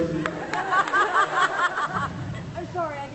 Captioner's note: laughs